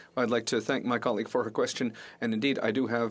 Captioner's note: speaking French